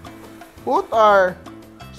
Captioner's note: sizzle